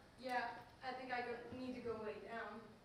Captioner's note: none